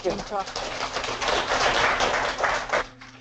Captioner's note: applause